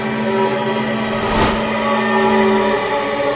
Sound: whoosh

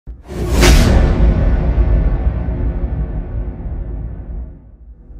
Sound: cinematic impact sound effect

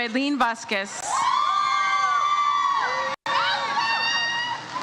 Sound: audience cheers

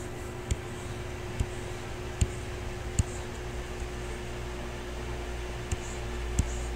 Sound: faint techno music; computer mouse tapping

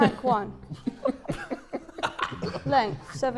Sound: Sidemen laughing

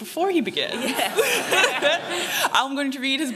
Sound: laughter

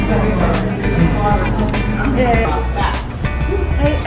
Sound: chattering; smooches

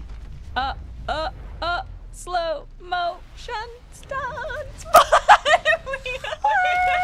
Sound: laughs

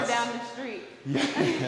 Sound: laugh

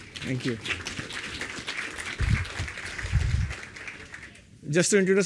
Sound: applause

